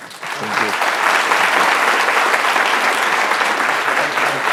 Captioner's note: applause